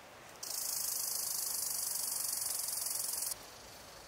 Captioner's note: bugs chirping